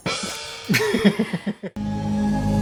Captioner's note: laugh